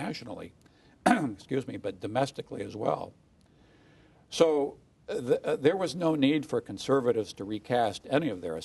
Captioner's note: cough